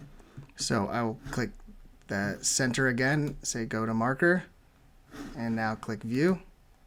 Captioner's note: click